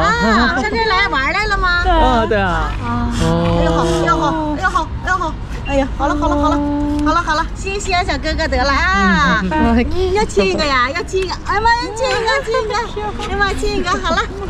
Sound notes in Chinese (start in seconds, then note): 3.1 吸鼻子的小白